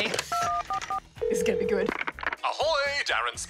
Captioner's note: line rings